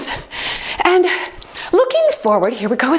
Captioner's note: timer beeps